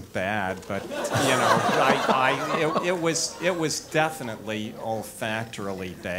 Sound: laugh

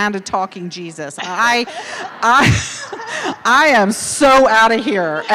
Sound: laughing

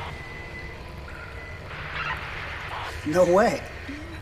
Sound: radio transmission

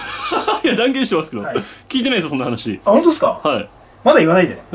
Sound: laughter

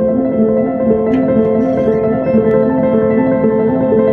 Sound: door slams

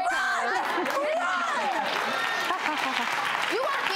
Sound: applause

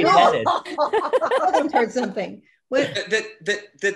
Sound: laughs

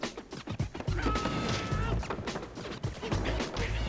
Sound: yells

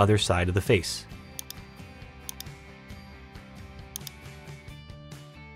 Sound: mouse clicking; gentle upbeat music

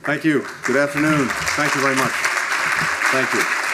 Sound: applause

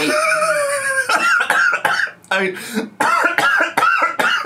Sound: laughs and coughs

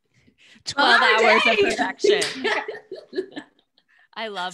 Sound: claps

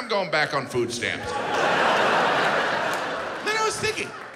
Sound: audience laughs

